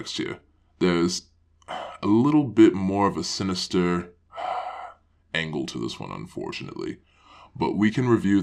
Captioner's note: sighs